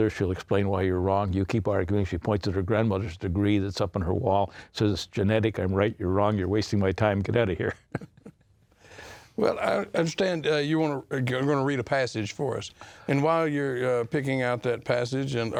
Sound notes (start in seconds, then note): 7.6 chuckling